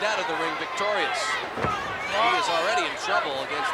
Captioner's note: blows thudding; body thudding